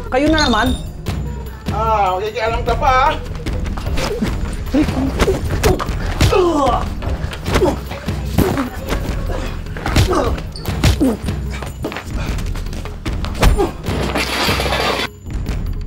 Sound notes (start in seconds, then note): 3.7 punching; 5.8 grunts